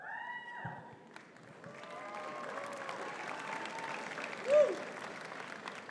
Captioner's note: audience cheering and clapping